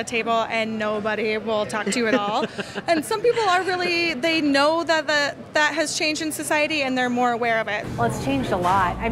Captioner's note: laughs